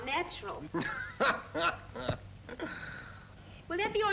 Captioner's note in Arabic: يضحك